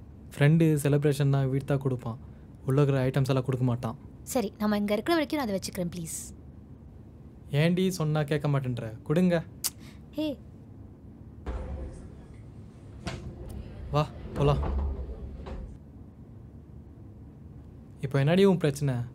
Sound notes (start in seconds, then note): 9.5 clicks tongue